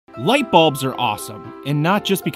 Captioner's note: voiceover